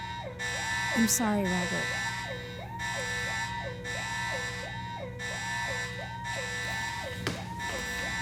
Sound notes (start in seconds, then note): 0.5 more alarms blaring